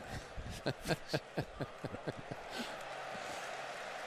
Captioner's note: laughs